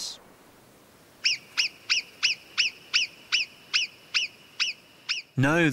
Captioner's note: marmot calls